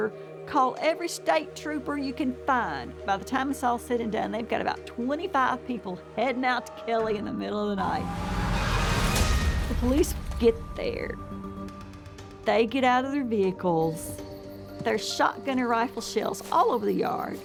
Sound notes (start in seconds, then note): 8.8 police sirens